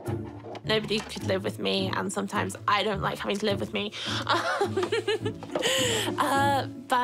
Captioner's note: chuckles